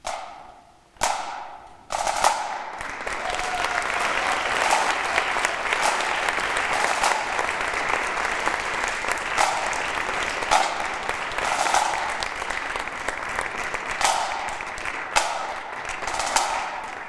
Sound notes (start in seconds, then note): 0.1 drumsticks tapping; 3.0 audience applauding; 3.0 audience cheering; 7.0 drumsticks tapping rhythmically